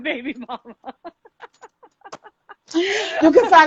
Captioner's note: laughing